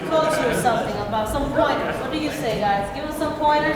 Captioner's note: crowd talks over each other